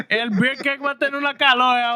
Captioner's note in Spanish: Hablando en idioma extranjero